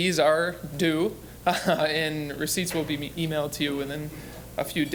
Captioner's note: chuckling